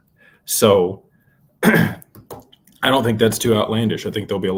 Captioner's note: clears throat